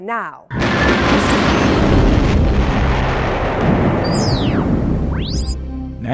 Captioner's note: sound Effects